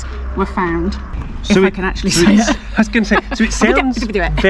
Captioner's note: bumbles words; laughs